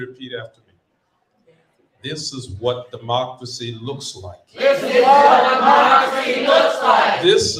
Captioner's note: cheering